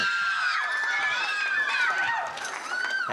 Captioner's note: cheering, applause